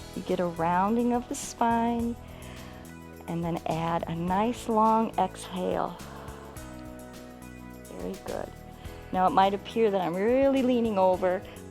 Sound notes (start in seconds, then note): 2.2 inhales; 6.8 exhales